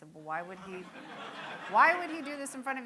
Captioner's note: audience laughing